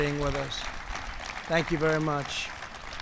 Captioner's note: applause